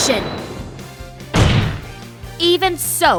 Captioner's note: slam